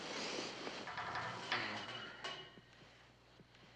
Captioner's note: metal çıngırak